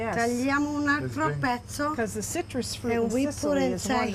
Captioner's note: speaking Italian